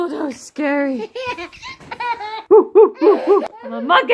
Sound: laughter

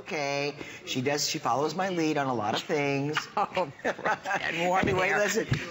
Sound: laughter

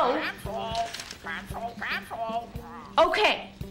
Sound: parrot squawking

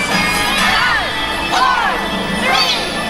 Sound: crowd

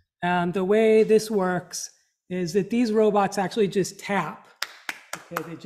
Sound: clap clap clap

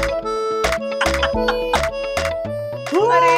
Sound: laughing

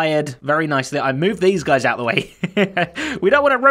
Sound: chuckles

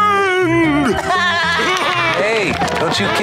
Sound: laughing

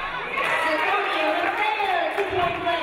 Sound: audience cheering

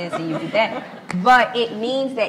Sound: laughs

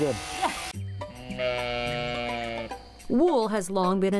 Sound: sheep bleating

